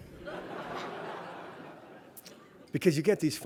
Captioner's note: laughter